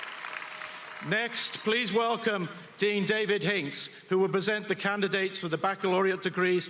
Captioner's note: applause